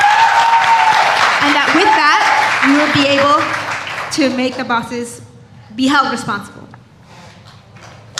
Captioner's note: cheers and applause